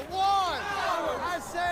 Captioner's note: crowd